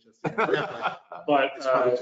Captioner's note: all laugh